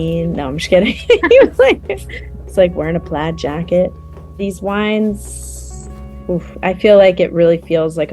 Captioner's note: laughter